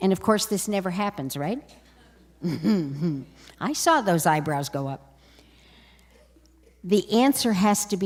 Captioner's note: laughter